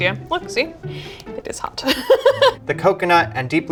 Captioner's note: laughs